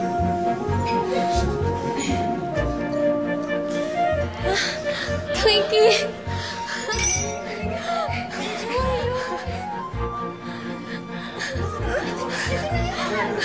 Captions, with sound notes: [Ella gasps] Twinky. Look! Julius! There she goes. There she goes.